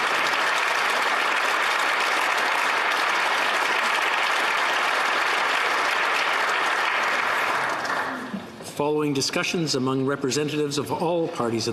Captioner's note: applause